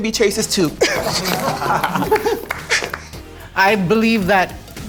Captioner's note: participants laughing